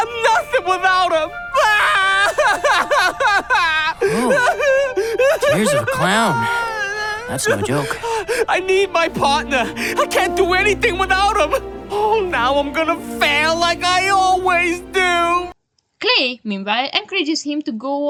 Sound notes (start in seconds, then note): 5.5 hysterical crying